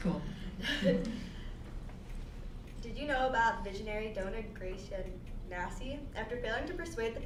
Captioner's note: laugh